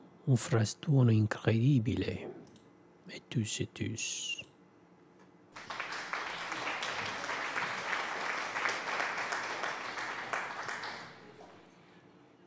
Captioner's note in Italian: Applauso